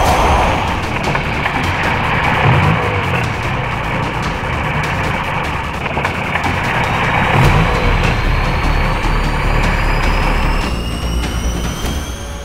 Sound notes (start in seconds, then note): 1.2 dramatic music playing; 6.4 engine whirring sound